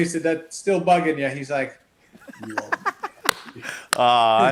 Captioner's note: laughs